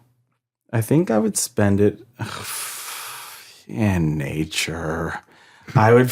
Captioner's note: sighs